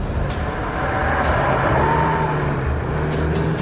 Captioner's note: tires screech